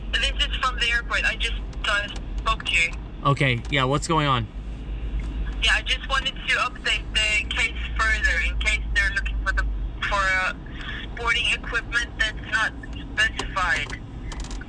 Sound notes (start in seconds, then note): 5.9 phone